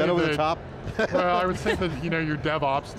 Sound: group laughing

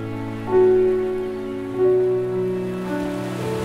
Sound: ocean waves crashing and seagulls

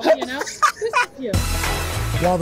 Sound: laughter

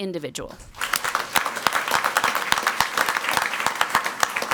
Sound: crowd clapping

